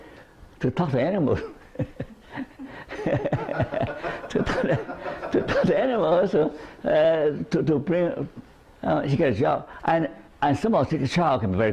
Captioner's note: laughter